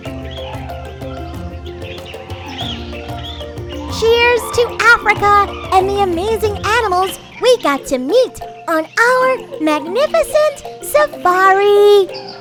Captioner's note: kids cheering and safari music fades